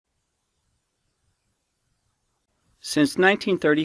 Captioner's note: silence